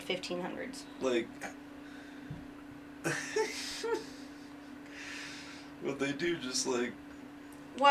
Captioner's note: chuckles